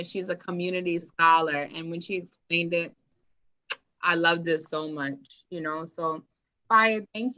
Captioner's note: kiss sound